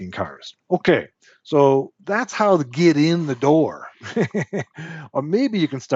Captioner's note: laughs